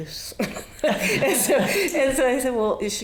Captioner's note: audience laughing